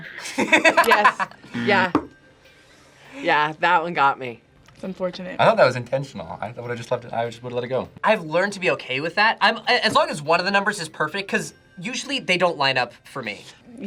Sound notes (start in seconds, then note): 0.1 laughs; 2.0 buzzer rings